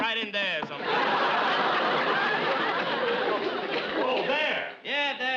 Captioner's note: audience laughs